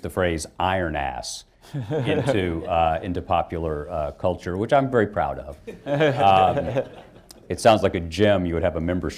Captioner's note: laughter